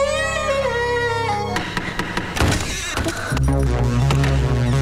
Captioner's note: Door knocks and opens